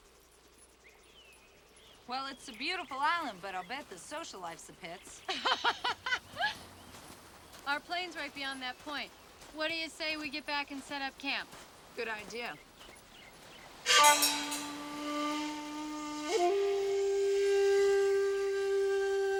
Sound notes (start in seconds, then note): 5.2 ladies laughing; 13.8 dramatic Oriental music